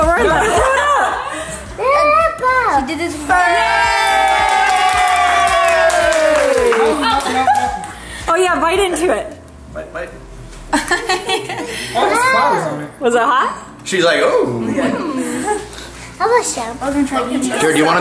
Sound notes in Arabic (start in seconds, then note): 3.1 تضحك; 4.1 تصفيق وتصفيق